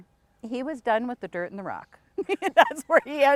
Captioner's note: laughs